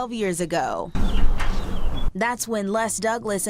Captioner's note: mailbox clanking